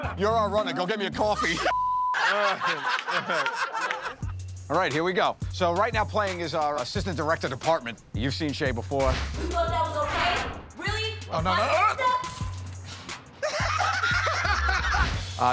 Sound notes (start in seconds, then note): 2.1 laughter; 13.4 laughter